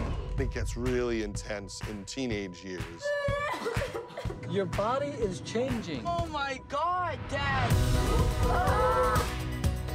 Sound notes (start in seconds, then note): 3.1 crying; 8.0 screams